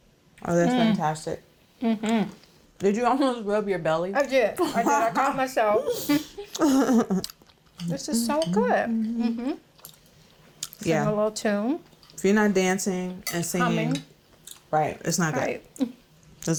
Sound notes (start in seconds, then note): 5.9 laughter; 8.9 humming